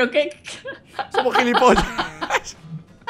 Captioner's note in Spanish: risas